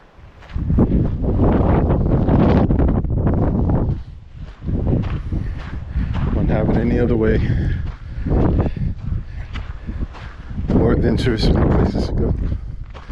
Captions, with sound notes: (wind blowing) Wouldn't have it any other way. More interesting places to go.